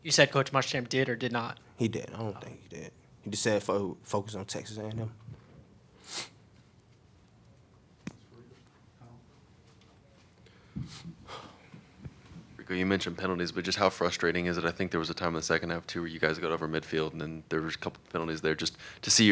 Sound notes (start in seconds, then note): 8.5 background chatter